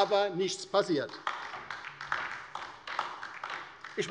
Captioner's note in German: Beifall bei der LINKEN